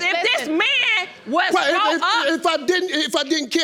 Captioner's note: stammering